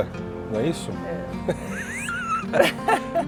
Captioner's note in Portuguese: risos